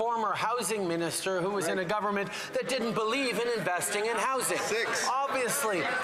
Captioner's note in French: voix de l'interprète